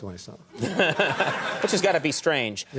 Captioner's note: laughing